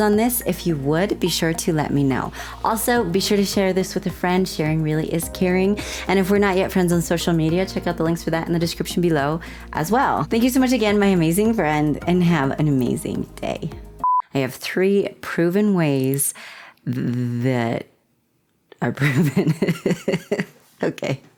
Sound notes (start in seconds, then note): 14.0 blooper beep; 19.0 laughter